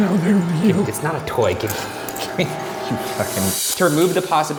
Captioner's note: laughs